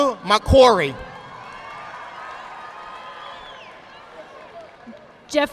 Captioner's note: audience applauding